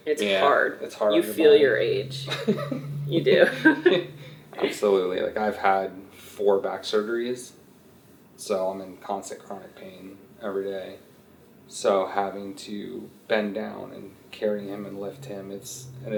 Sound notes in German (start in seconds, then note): 3.1 lacht; 3.2 Mutter lacht